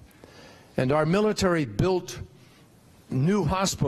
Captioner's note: none